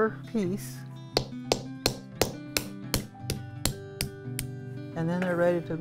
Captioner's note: hard striking, cracking